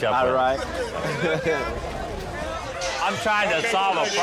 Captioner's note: laughs